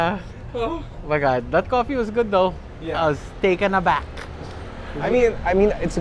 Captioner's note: none